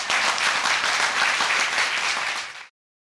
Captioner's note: audience applauding